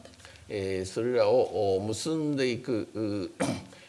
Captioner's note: speaking japanese